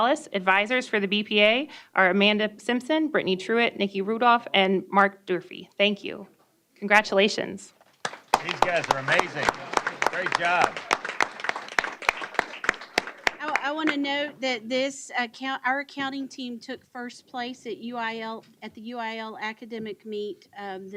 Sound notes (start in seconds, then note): 10.7 applause